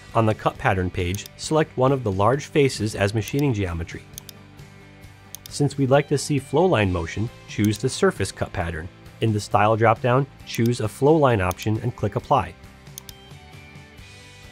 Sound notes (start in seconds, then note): 5.3 mouse clicking; 12.9 mouse clicking; 14.2 gentle upbeat music